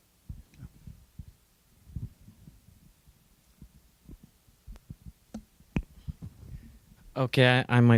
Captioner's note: silence